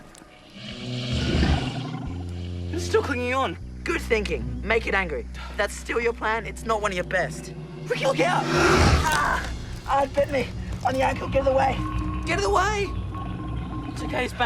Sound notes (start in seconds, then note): 0.5 growls; 7.8 roars; 8.3 screams